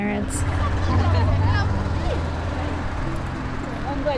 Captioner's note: people chatting indistinctly; engine rumbling